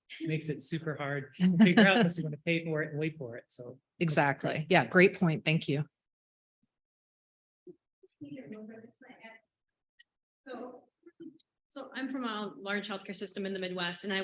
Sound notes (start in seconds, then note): 9.4 speaking faintly